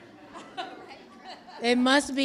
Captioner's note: laughs